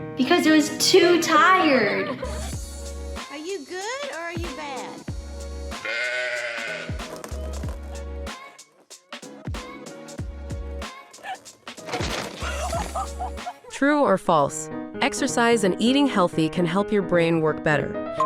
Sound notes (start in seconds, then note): 1.6 children laughing; 5.8 sheep bleating; 7.2 fun music; 11.7 fence cracking; 12.4 woman gasping and laughing; 12.4 woman laughing